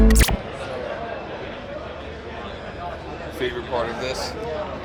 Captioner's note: background chatter